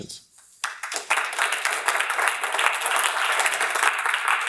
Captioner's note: audience applauding